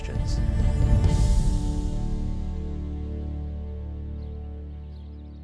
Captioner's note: passaros piando